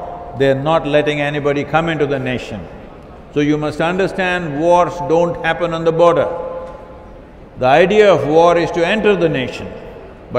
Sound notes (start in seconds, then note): none